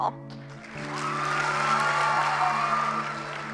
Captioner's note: cheers and applause